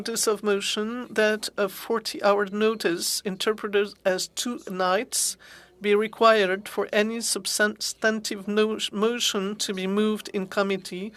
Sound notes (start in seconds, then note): 4.5 speaking French